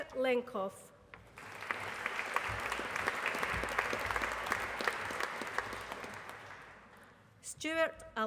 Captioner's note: applause